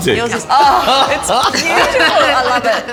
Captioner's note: all laughing